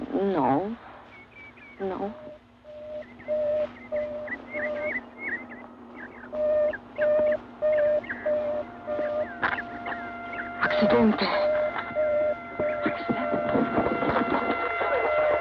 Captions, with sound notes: - No. No. (alarm beeping) Accidente! (ambulance siren wailing)